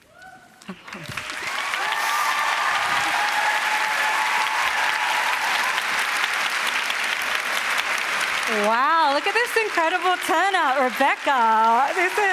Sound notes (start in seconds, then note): 0.7 cheering and applause